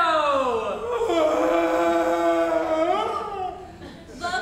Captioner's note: Grumio gasping